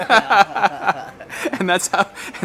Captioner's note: laughing